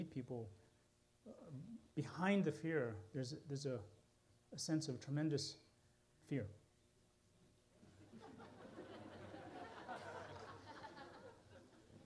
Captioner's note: laughter